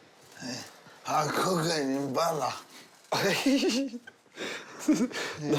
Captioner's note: laughs